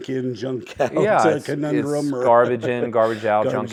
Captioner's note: laugh